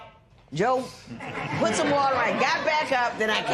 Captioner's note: laughter